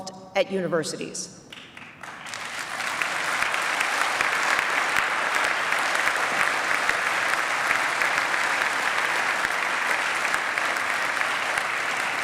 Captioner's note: applause